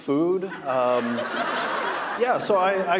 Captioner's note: audience laughing